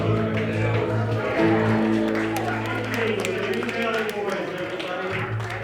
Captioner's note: applause